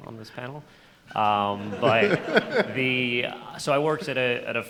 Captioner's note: laughter